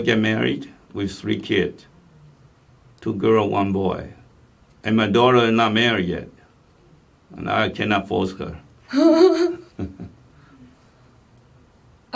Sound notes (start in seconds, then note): 9.0 laugh